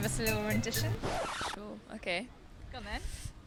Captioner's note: record scrapes